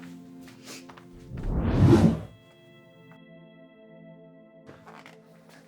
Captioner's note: graphic whooshes